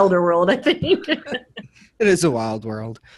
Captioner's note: all laughing